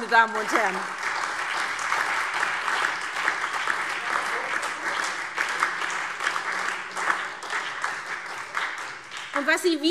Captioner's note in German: Beifall SPD, Freie Demokraten und DIE LINKE